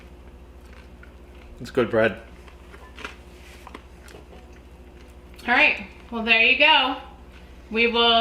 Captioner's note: crunchy Chewing